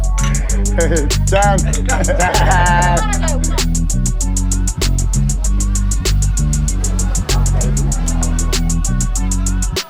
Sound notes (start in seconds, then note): 0.6 cheersing in korean